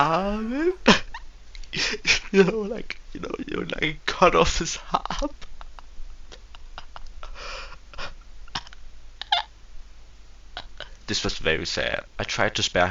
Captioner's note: laugh